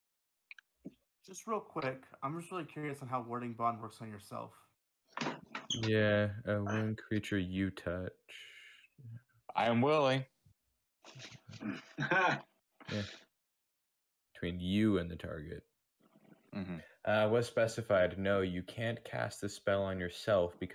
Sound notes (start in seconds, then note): 6.0 reading to himself; 10.0 chuckling; 14.3 still reading to himself, now also</b> <b>mumbling